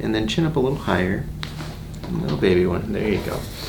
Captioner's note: cracking